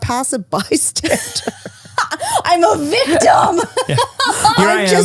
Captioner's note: laughs